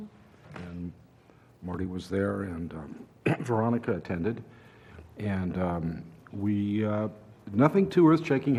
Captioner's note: cough